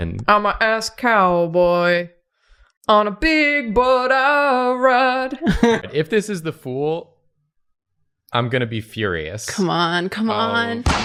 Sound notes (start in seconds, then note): 5.4 chuckling